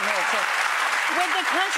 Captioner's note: audience applauding